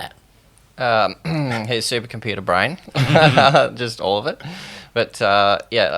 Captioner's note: laughs